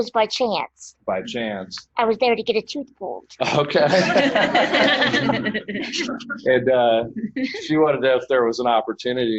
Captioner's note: audience laughter